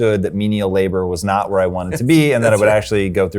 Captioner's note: chuckles